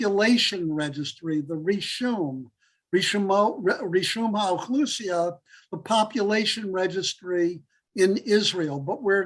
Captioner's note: Hebrew